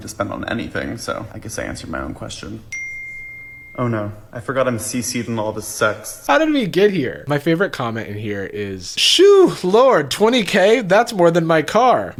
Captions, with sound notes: to spend on anything, so I guess I answered my own question. (phone dings) Oh no, I forgot I'm CC'd in all of his sexts. - How did we get here? My favorite comment in here is, "Shew Lord $20k? "That's more than my car!"